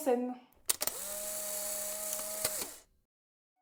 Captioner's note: camera flash sound